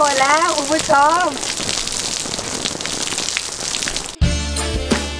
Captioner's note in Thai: เสียงฝน